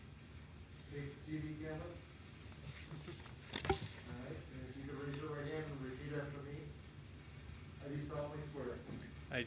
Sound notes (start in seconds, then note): 1.0 speaking softly